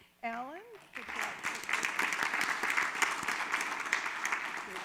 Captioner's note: audience claps